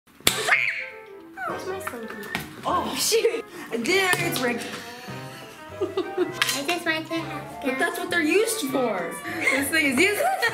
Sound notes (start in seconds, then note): 0.4 screaming; 6.0 laughing